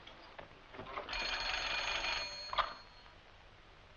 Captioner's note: phone ringing